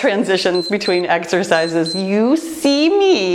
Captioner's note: timer beeps